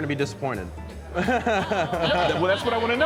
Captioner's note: laughing